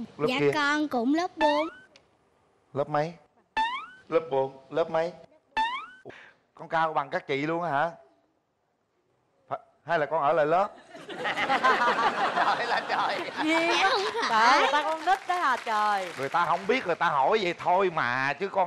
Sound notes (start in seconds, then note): 10.7 laughter